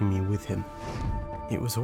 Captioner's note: magic woosh